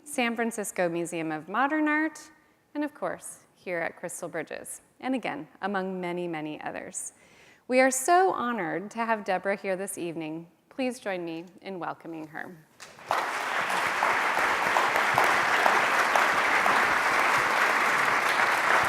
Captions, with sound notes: San Francisco Museum of Modern Art, and of course, here at Crystal Bridges. And again, among many, many others. We are so honored to have Deborah here this evening. Please join me in welcoming her. (audience applauding)